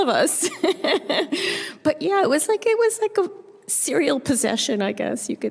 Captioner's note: chuckles